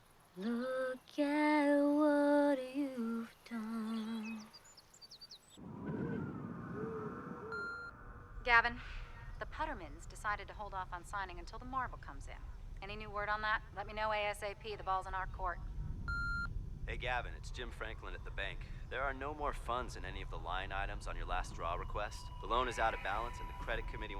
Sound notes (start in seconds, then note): 7.4 beeping; 8.6 voiceover; 16.1 beeping; 17.3 voiceover